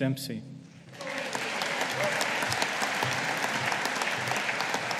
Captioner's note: audience applauding